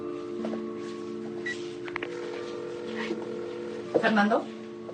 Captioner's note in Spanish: Sonido de llamada